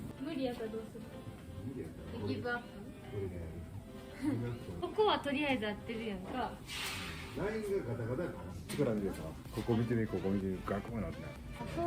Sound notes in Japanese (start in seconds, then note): 4.1 笑い声